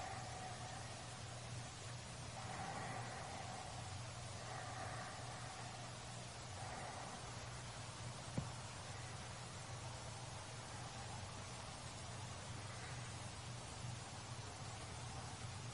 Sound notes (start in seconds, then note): none